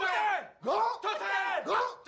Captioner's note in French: en choeur